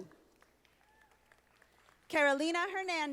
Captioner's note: audience applauding